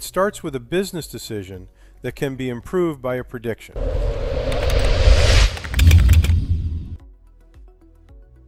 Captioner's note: electronic sound